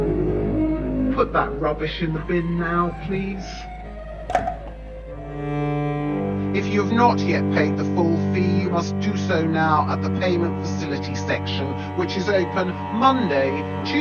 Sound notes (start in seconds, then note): 4.2 bottle clattering; 5.6 solemn music